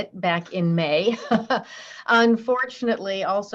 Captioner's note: laughs